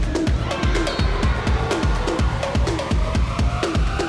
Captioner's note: crowd cheering